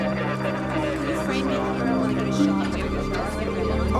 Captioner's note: crowd mumbling